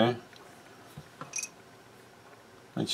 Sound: clink

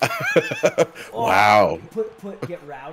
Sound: laugh

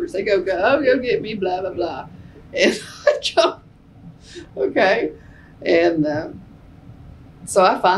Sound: laughs

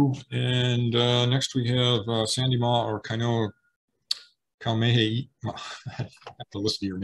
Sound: laughs

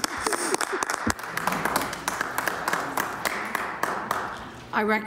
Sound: some Applause

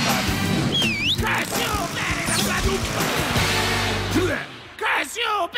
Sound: whistles

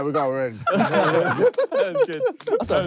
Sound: all laughing

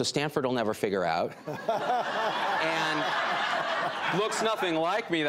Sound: audience laughing

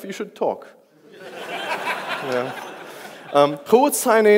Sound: audience laughs

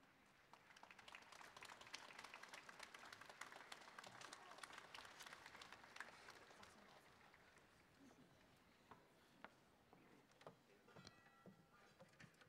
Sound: applause

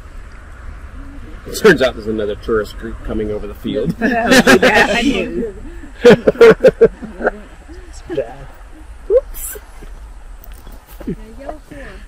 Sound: laughter

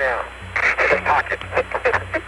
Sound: laughing

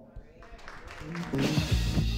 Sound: applause

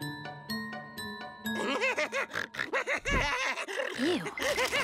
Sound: laughing

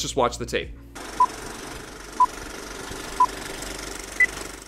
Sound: old Reel Counting Down

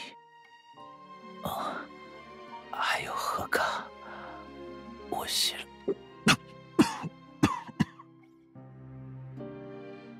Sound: coughs

